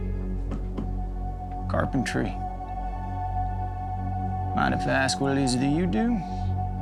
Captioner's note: tapping